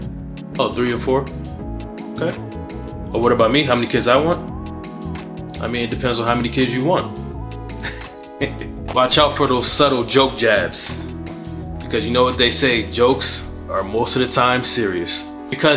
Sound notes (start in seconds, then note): 7.8 chuckling